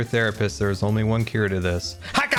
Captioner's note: shouts